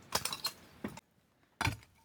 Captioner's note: sound of a pickaxe